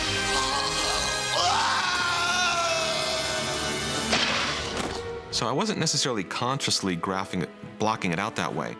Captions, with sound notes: [SCREAMS] So I wasn't necessarily consciously graphing it, blocking it out that way...